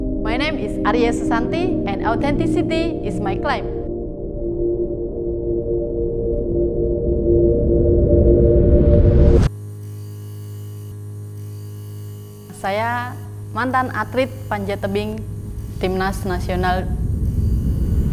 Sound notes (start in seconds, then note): 6.5 music intensifies and stops; 9.4 interference